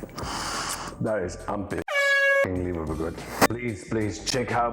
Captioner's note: horn honks